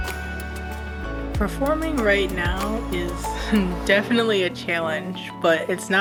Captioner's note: laughs